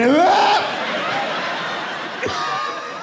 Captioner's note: laughs